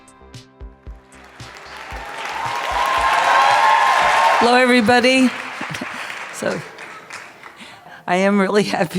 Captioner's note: theme music plays; applause